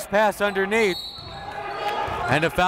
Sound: whistle

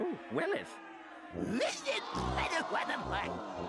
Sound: audience jeering

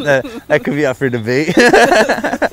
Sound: laughter

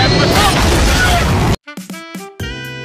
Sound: plane crash!

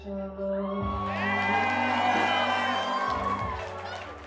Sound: guests cheering

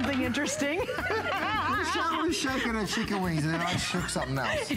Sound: laughter

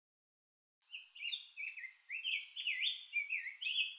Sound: sound of birds

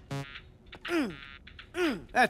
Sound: grunting

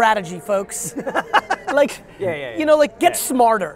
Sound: laughing

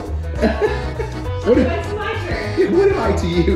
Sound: laughs

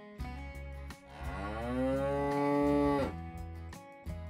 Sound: cow Moo

